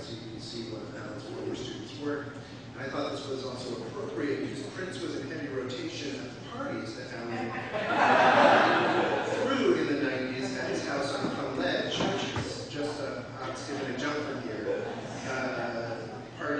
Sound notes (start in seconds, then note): 7.2 audience laughs